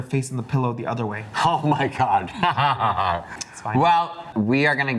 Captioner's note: laughs